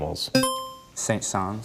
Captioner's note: buzzer chimes